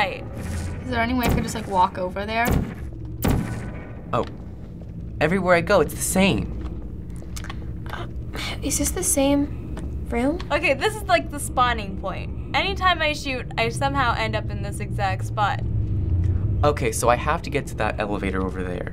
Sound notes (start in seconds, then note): 3.2 gun zaps; 8.2 sighs